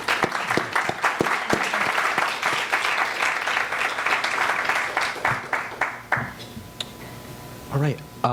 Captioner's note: applause